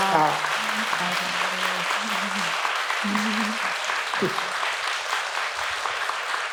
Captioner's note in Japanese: 拍手